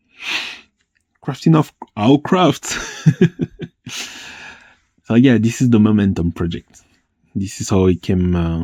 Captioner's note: laughs